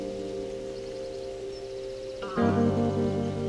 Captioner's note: birds chirping